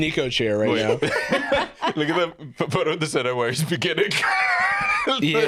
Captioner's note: laughs